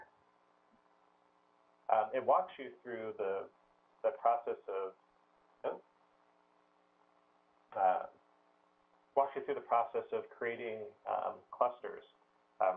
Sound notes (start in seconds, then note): 5.1 pause